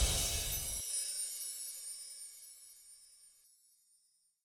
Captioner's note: sparkle chimes